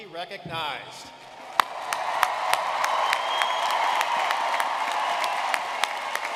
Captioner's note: audience cheering and clapping